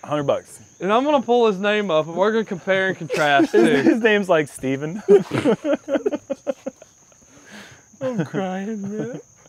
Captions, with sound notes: -100 bucks. -I'm going to pull his name up, and we're going to compare and contrast. -His name is like Stephen. [laughter] -I'm crying, really.